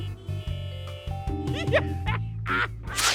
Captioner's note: laughs